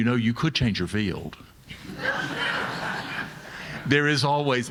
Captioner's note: audience laughing